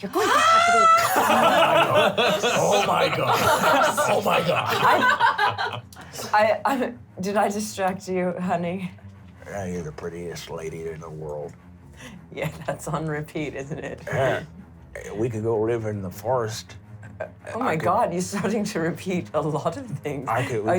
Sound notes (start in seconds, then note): 1.8 shouts; 2.6 laughs